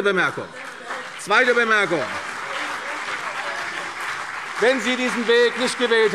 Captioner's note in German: Beifall CDU und BÜNDNIS 90/DIE GRÜNEN